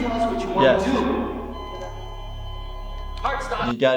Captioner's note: echoing; monitor flat lining